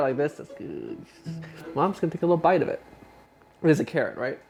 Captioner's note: groans